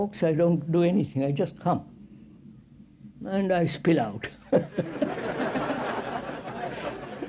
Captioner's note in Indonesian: Tertawa